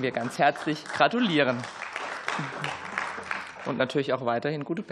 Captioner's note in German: Beifall